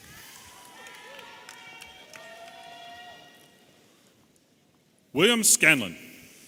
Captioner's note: audience applauding and cheering